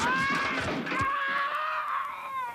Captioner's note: screams